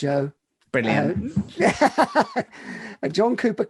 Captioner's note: laughs